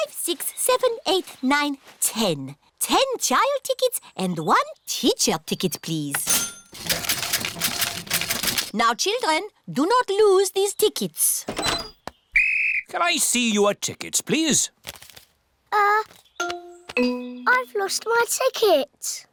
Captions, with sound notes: six, seven, eight, nine, ten. Ten child tickets -and one teacher ticket, please. -(CASH REGISTER DINGS) Now, children, do not lose these tickets. -(BLOWS WHISTLE) -Can I see your tickets, please? Uh... I've lost my ticket.